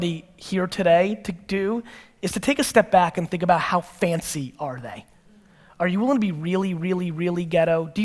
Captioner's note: none